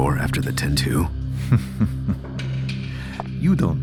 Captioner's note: laughing